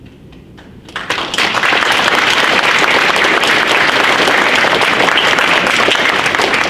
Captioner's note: audience applauds